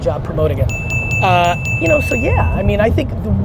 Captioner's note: bell dings multiple times